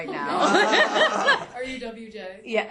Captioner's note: class laughs